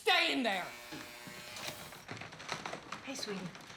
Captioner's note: door buzzes